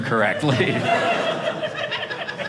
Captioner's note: audience laughing